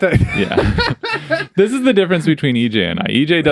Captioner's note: both laughing